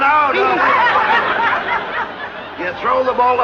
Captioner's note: laughter